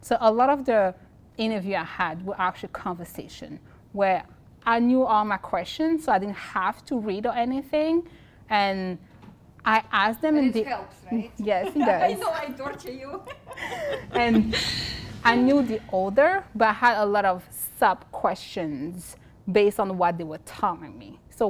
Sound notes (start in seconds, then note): 11.4 laugh